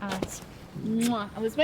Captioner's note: kiss sound